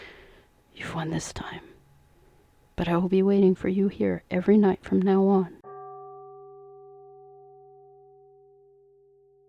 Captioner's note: temple bell rings